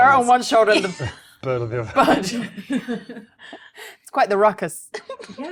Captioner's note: laughs